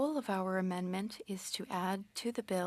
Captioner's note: speaking French